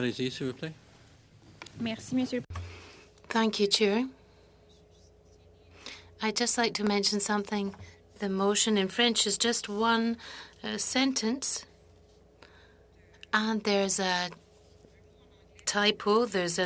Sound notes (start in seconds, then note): 9.9 speaking French